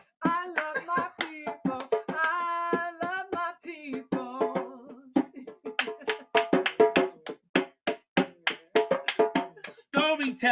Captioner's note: finishes singing and claps